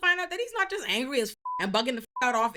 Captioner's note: beep